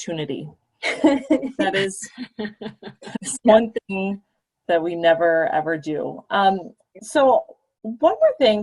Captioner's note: laughter